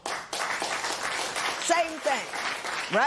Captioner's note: applause